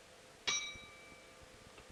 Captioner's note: bell Sound